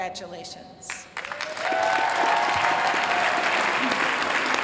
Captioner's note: applause